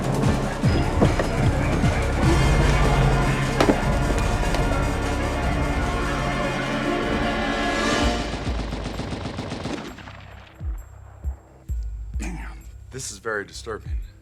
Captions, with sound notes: (suspenseful music) (machine gun firing) - Damn! This is very disturbing.